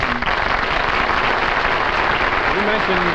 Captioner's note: audience applauds